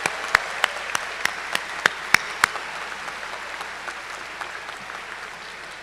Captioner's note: cheers and applause